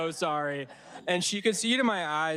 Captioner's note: audience laughing